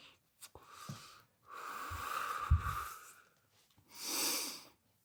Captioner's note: exhaling